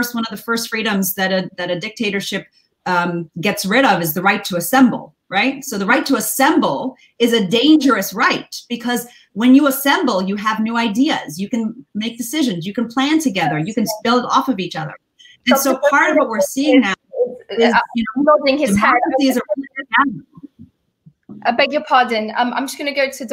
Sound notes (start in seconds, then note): 18.0 distorted audio